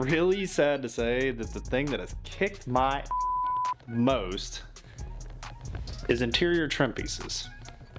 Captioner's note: beep